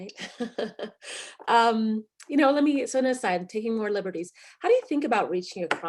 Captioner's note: laughs